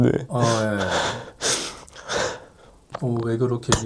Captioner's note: sobbing